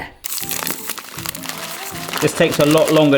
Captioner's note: plastic rustles